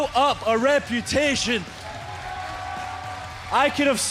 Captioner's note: crowd cheering